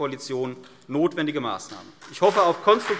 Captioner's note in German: Beifall CDU und BÜNDNIS 90/DIE GRÜNEN